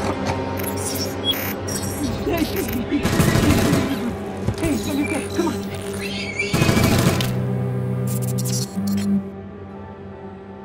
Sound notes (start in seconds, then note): 0.6 robotic beeps; 3.0 gunfire; 4.6 robotic beeps; 5.8 shriek; 6.5 gunfire; 7.8 robotic beeps fade away